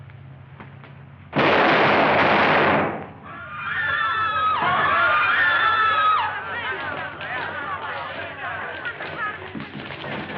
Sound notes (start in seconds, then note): 1.3 gunshots; 3.2 people screaming